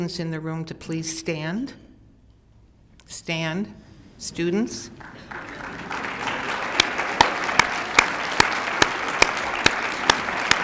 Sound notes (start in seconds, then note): 4.9 applause